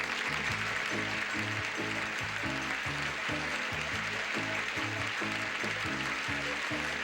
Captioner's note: audience applauding